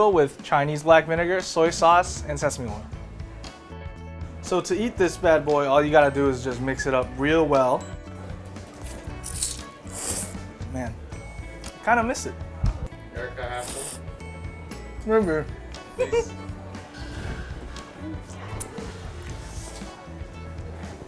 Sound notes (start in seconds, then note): 8.7 slurping